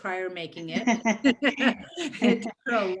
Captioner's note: laugh